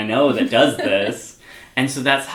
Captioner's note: laughs